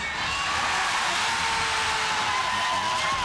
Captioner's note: cheering